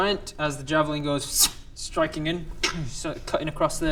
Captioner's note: ssssszt